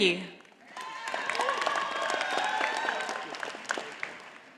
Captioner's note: audience applauding